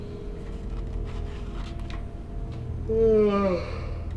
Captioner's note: man yawning